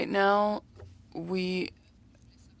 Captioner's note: speaking French